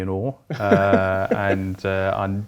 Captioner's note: laughing